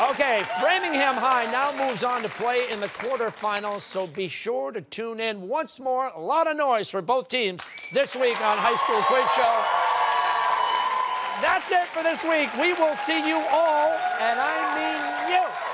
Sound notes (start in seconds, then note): 9.3 cheers and applause